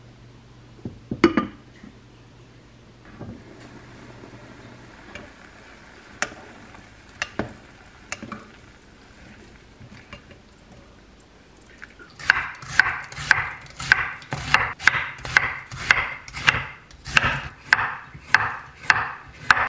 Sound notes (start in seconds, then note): 3.3 boiling